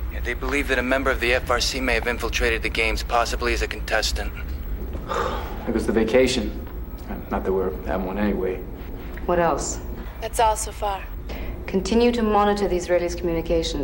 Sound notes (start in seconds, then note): 4.4 sighs